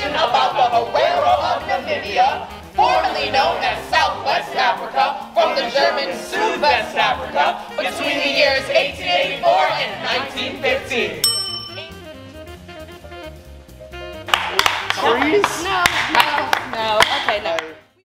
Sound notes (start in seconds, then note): 11.2 bell rings; 15.8 clapping